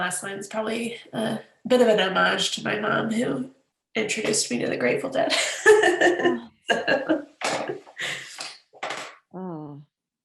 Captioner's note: laughs